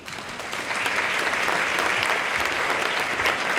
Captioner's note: audience claps